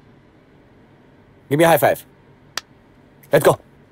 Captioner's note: Hands clapping